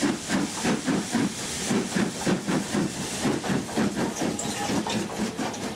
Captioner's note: train passes